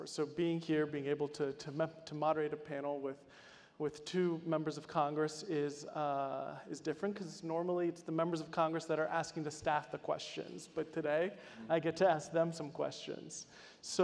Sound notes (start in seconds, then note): none